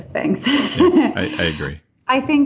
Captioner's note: laughing